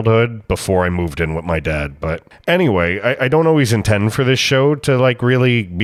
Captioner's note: breath